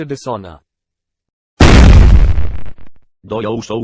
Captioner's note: gunshot